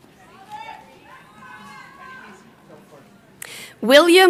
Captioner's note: crowd chattering